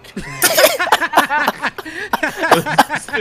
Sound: laughing

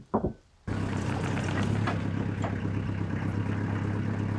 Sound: equipment rumbles

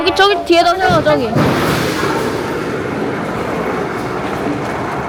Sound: sound of something smashing

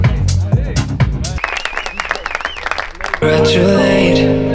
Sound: cheering

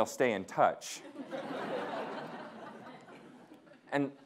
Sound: audience laughing

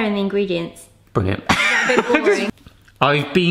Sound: laughs

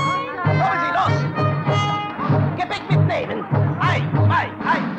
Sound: German language

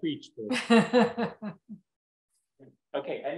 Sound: laughs

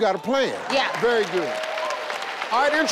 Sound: audience cheering

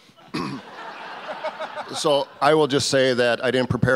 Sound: audience laughs

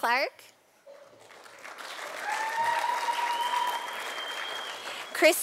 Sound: sound of applause from audience

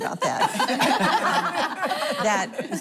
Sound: laughing

